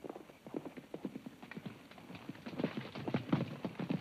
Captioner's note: hooves clomp